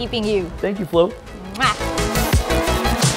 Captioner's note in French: kiss